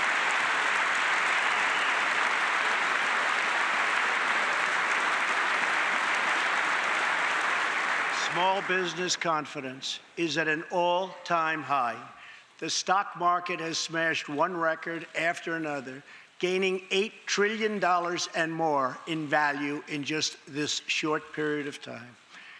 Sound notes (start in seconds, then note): 0.0 applause